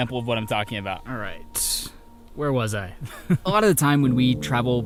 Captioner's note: chuckling